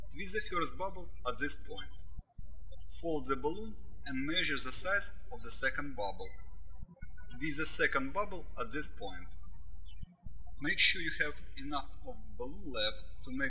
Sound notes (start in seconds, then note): 10.1 birds chirping